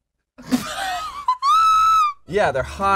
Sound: laughs

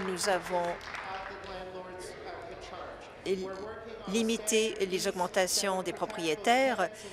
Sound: applause

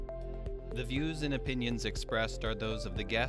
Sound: male Voice

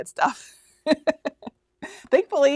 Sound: laughing

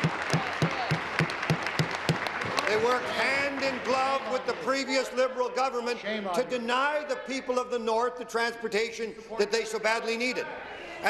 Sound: applause

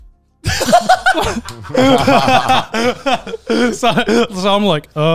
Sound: all laughing

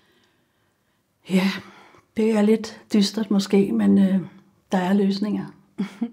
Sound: chuckles

